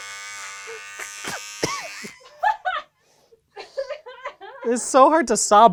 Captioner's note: gags and coughs; laugh